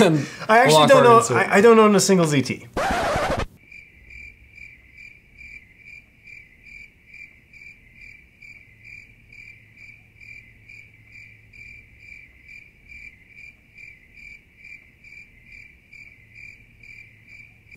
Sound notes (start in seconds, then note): 2.7 record scratch; 3.5 crickets